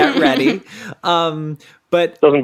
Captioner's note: laughs